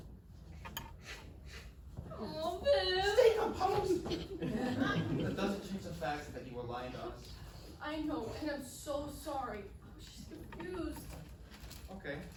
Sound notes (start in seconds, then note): 1.0 sniff, sniff